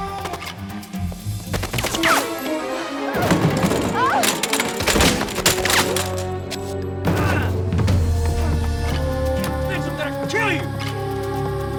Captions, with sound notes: (guns firing) (suspenseful music) - Bitch, I'm gonna kill you.